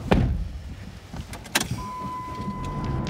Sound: beeping

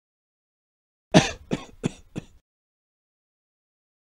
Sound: sound of man coughing

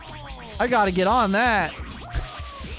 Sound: still Sarcastic

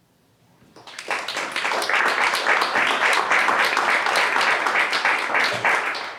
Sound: applause

